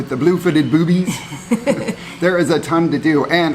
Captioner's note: laughing